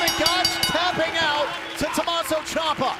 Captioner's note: bell ringing